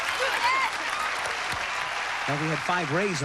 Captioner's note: cheers and applause